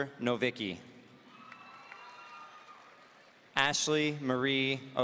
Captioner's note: audience cheering